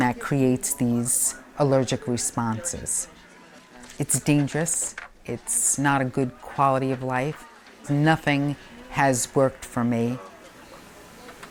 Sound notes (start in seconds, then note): 4.2 paper rustling